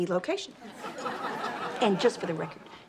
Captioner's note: audience laughs